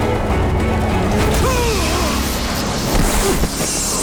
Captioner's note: groaning